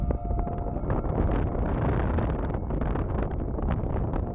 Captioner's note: wind rustling